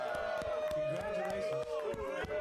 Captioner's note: audience cheering